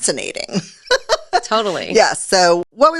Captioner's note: laughs